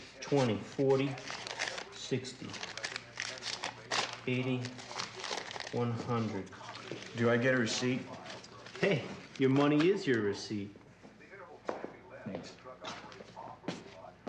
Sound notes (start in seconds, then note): none